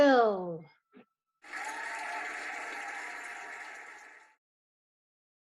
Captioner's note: cheering and applauding